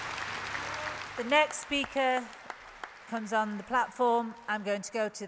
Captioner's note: applause